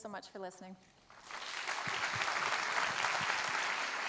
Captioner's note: applause